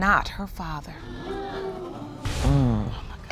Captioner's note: groans; audience gasps